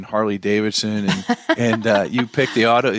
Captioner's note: laughs